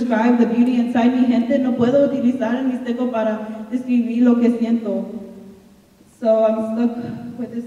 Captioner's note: speaking in Spanish